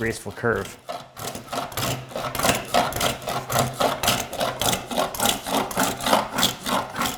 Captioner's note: blade on wood rhythmically scraping